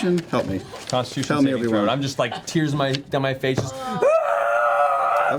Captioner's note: screaming